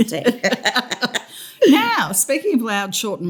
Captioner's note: laughter